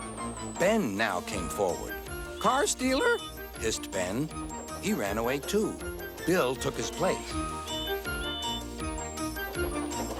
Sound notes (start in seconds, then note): 7.4 toot toot